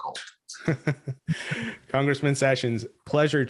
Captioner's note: laughs